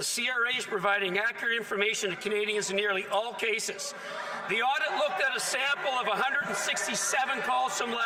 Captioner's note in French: voix de l'interprète